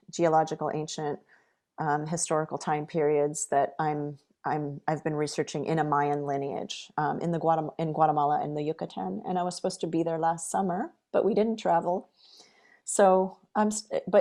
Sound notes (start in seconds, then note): none